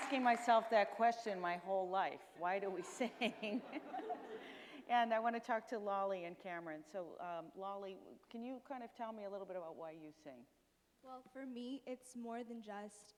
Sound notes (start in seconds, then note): 2.7 chuckles; 5.3 audience chuckles